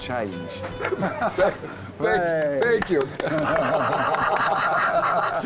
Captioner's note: all laugh